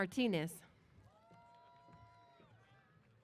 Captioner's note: cheers